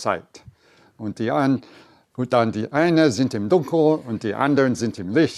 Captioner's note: foreign language speaking